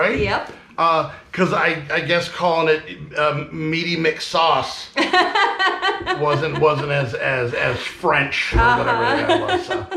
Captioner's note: laughing